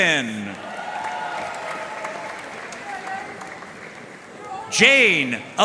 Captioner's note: audience cheering and applauding